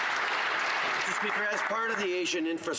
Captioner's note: some Applause